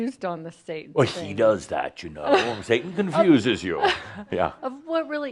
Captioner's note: speaking in a creepy voice